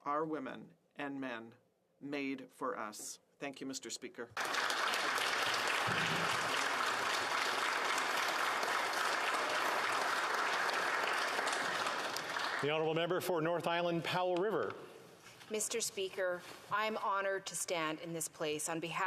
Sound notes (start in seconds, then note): 7.0 applause